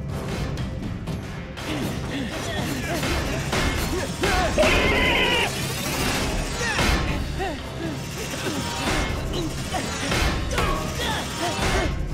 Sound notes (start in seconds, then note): 4.5 screeching; 6.2 panting and grunting